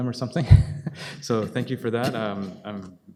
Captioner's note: laughing